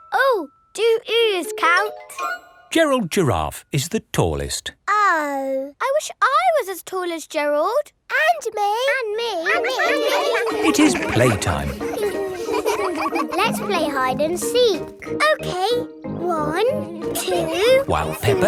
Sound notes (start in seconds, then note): 9.5 all laughing; 12.0 all giggling